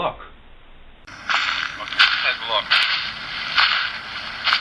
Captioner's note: stepping on leaves